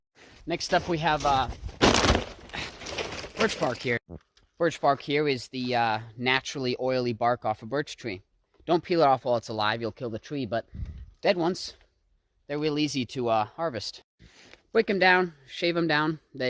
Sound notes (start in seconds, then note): 0.6 crunch